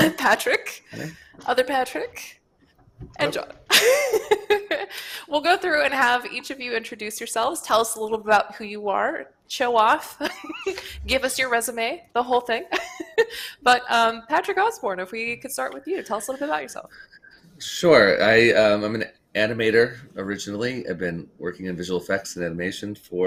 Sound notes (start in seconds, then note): 3.7 laughs